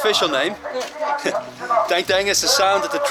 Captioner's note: laughing; 웃음